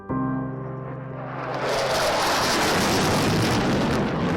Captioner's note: roar of the jet engine